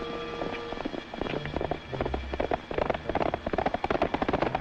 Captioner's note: hooves clopping